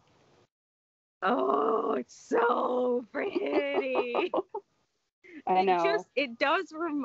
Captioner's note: groans